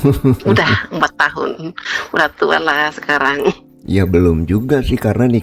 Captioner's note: tertawa